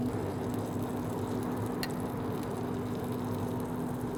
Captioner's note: food sizzling